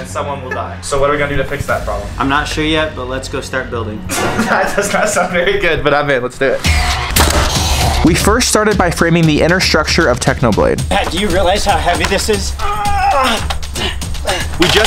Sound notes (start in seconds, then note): 7.3 machinery roaring; 12.6 grunting